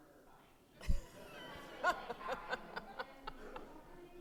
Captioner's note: audience laughing